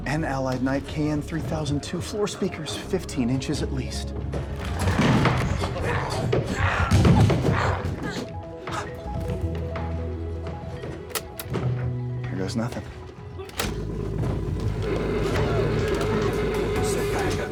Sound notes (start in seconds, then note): 4.6 glowzies growling; 9.0 Walter gasps; 9.0 tapecorder clicks; 15.3 tapecorder whirring